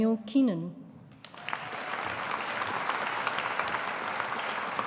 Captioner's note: audience applauding